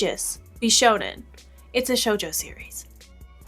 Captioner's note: whispering